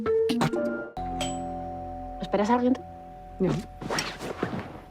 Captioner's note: doorbell